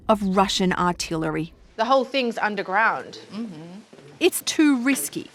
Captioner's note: affirms